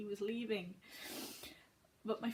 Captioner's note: sniffs in gay